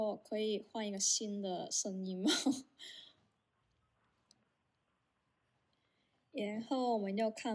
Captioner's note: laughs